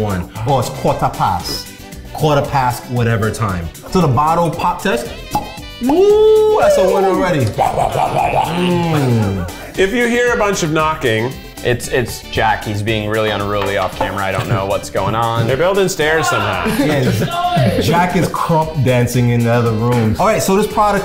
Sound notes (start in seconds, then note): 5.2 bottle pops